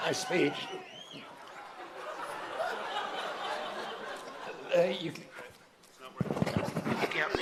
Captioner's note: laughter